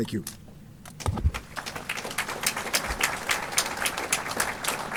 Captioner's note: applause